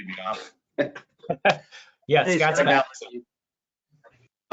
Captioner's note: all laughing